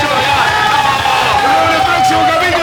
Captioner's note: cheers